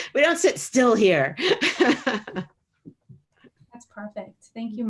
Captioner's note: laughs